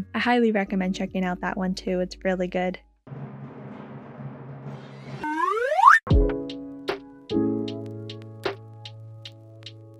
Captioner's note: slide whistle SFX